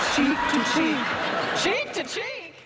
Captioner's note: laughter